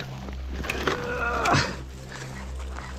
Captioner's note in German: Er ächzt